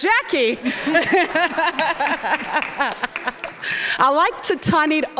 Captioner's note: everyone laughing